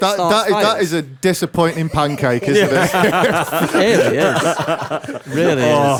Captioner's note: laughter